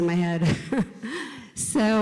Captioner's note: chuckles